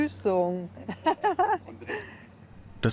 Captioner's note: she laughs